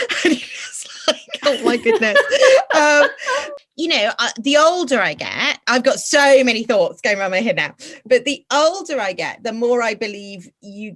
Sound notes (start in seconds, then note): 1.2 hysterical laughter